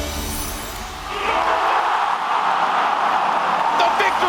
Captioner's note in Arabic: تشجيع الجمهور